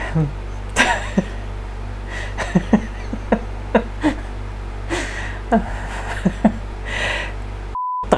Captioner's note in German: lacht